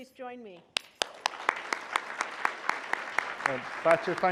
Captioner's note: applause